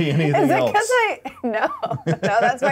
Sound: laughs

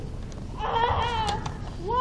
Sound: groan

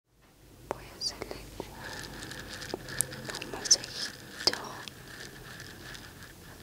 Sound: soft whispering

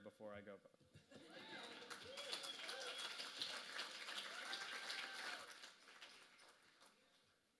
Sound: applause

